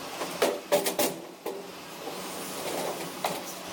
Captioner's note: pipes clattering